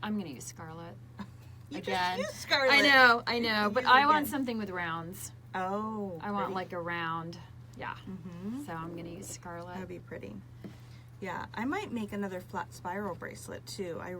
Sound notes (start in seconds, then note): 1.4 laughs